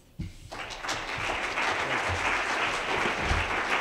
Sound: applause

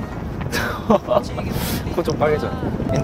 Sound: laughing

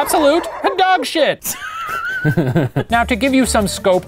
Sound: laughing

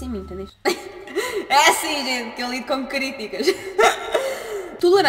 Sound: laughs

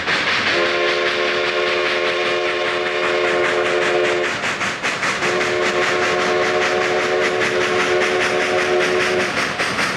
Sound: steam locomotive whistle

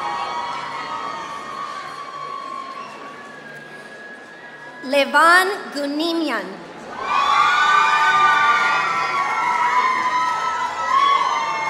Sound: applause; applause

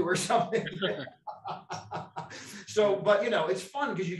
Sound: laughs

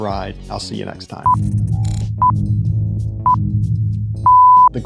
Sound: countdown beeping; TV test card beeping

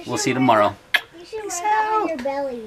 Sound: kisses

